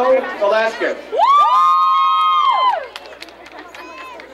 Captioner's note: crowd cheering